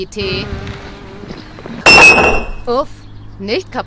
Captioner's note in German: Wespensummen - Tasse fällt runter